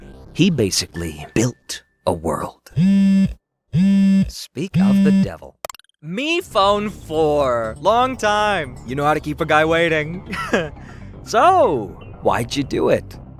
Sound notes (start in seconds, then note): 2.8 phone buzzing; 10.2 laughs